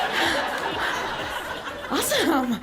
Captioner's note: audience chuckles